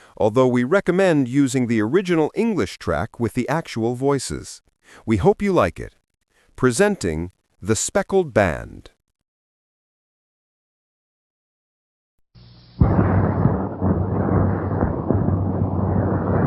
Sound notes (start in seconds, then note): 8.8 thunder